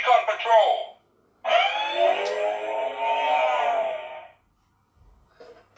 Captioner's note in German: Speeder Bike Sounds